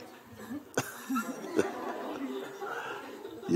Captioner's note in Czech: smích